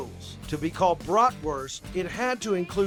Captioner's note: none